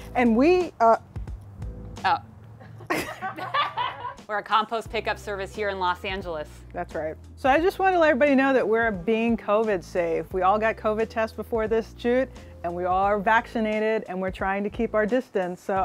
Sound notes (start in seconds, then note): 2.6 everyone laughs